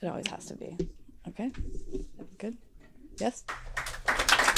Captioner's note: applause